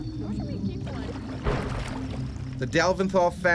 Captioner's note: voiceover